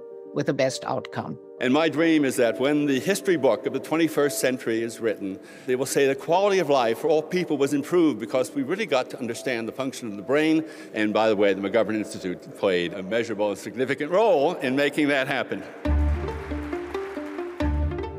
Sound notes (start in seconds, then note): 15.7 applause